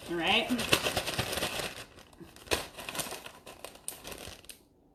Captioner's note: chips rattling